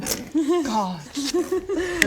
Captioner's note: gullible giggles